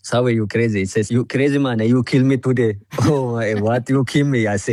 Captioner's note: laughs